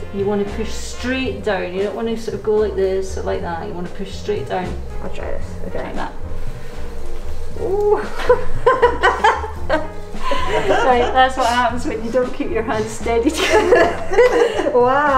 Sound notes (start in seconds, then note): 10.2 laughing; 13.3 laughs; 13.3 laughing